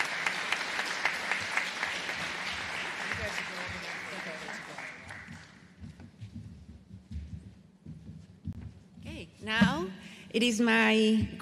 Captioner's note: applause